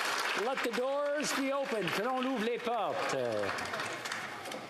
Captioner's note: applause